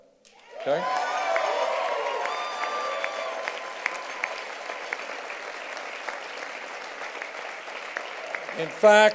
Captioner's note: cheers and applause